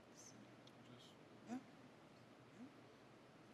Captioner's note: murmurs